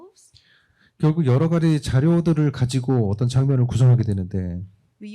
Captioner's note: speaking korean